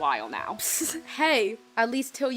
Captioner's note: mic snickers